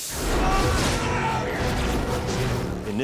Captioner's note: death eaters screaming